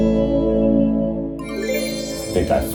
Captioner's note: mystical noise